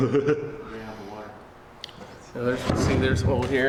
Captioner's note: laughs